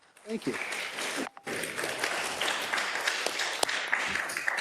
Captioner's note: attendees applauding